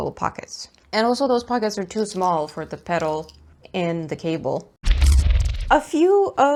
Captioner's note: sci-fi swooshy noise